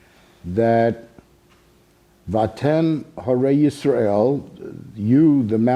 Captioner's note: speaking Hebrew